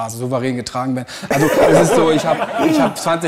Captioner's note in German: Lachen